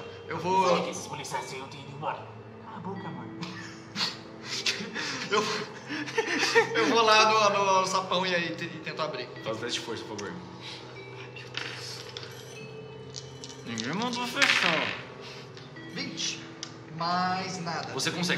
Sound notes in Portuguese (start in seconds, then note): 2.9 Voz abafada; 3.4 Risadas